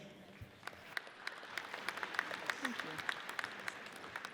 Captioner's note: audience applauds